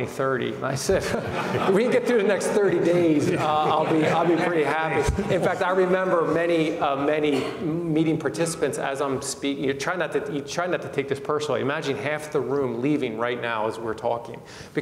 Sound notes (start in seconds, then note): 0.8 audience laughs; 4.8 all laugh